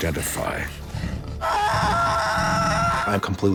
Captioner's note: screaming